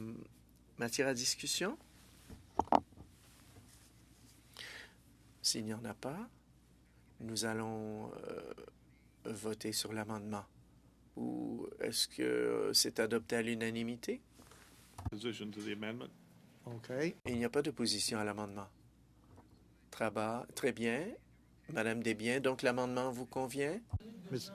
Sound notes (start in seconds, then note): 5.2 speaking French; 24.3 speaking French